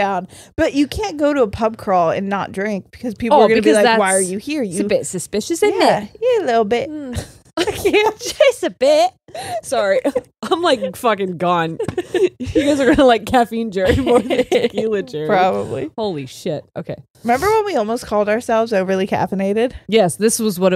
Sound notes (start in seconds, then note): 13.8 all laughing